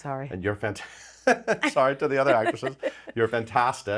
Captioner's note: laughs